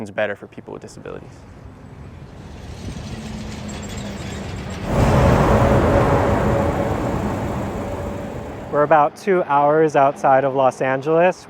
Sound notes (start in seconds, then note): 1.5 highway noise, cars driving